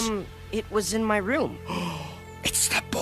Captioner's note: gasp